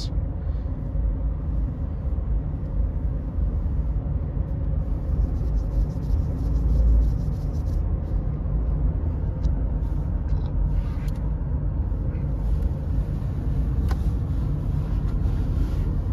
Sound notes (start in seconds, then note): 5.1 scratching